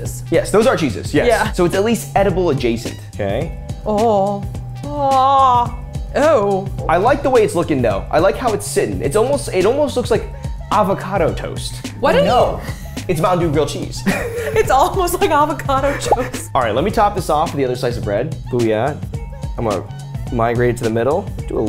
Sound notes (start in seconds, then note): 15.7 laughs